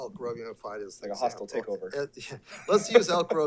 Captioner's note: laughs